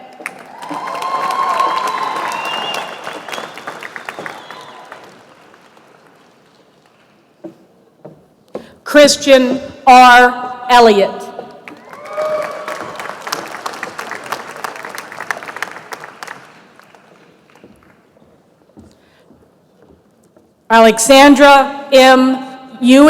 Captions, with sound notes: YOU. [APPLAUSE] WE HAVE TWO SPECIAL DEGREE CONFERRAL TRADITIONS AT TEMPLE LAW SCHOOL THAT REFLECT OUR FEELING OF COMMUNITY. THE FIRST IS THAT GRADUATES WHOSE IMMEDIATE RELATIVES ARE ALSO ALUMNI OF THE LAW SCHOOL CAN HAVE THEIR FAMILY MEMBER